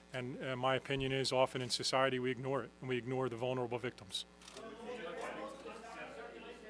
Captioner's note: audience chatter